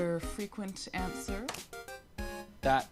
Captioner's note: click